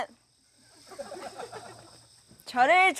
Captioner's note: haha